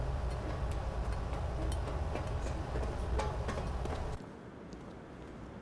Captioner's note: footsteps pattering